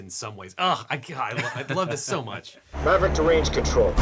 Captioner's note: laughing